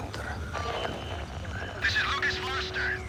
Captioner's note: whistle